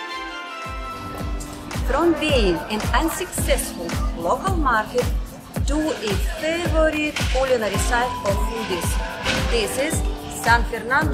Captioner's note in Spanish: Ruido callejero